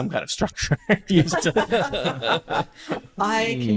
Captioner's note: laughter